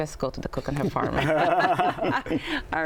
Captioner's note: laughter